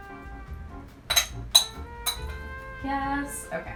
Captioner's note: metal spoon clatters